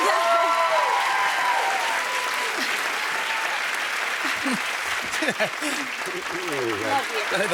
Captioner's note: cheers and applause